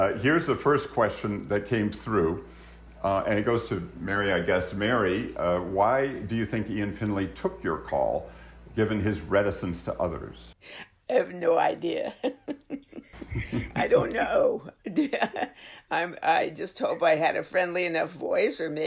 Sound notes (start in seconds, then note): 12.0 laughs